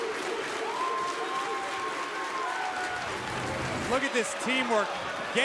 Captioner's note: crowd cheering